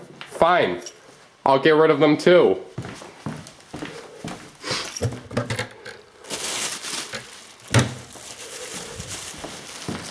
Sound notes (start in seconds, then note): 0.0 clatters; 3.9 sniffs; 6.5 crinkling